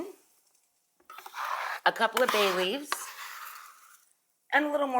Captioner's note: scrapes utensil